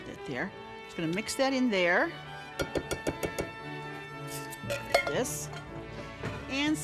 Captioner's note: can knocks